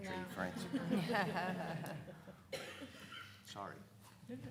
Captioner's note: everyone laughing